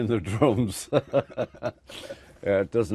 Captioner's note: laughter